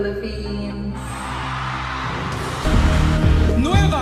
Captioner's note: audience shouting